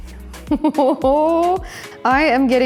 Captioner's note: laughs